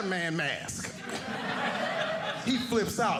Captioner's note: audience laughing